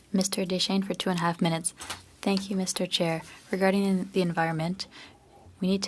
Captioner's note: speaking French